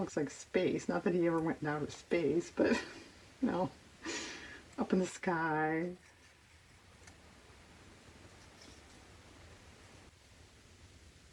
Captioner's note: laughs